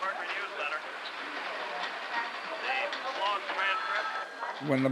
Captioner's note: people talking in background